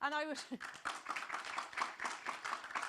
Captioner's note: audience clapping